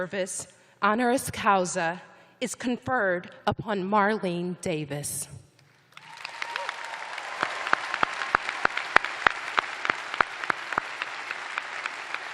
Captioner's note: cheers and applause